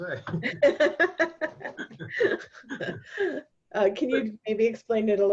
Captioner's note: laughing